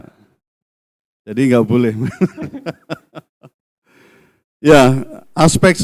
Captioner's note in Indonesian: tertawa